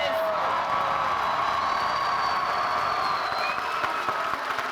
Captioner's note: audience cheering